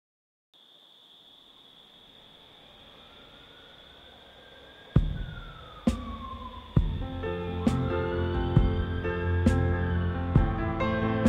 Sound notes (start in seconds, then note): 2.5 siren wailing; 4.9 gentle music